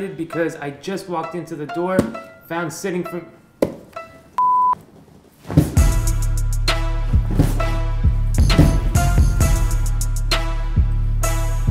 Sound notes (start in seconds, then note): 3.9 beeping; 7.0 heavy thumping